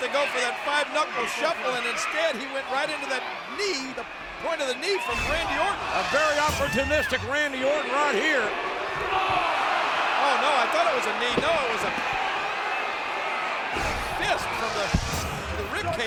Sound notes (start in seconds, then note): 5.4 graphics whooshing; 8.7 John Cena shrieking